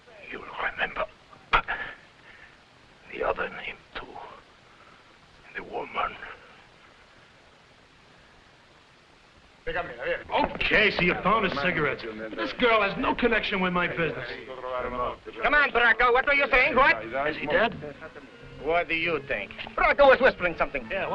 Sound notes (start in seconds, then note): 1.5 groans; 9.3 officers conversing in foreign language